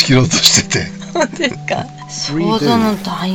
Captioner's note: laughs